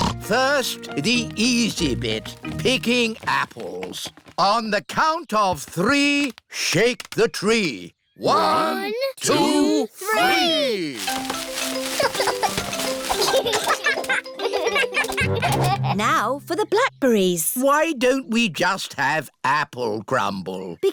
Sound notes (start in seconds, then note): 0.0 snorts; 11.7 peppa and george giggle